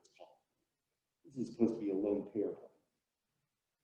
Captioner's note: murmurs